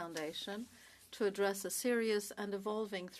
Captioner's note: speaking French